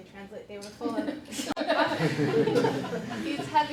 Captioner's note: laughter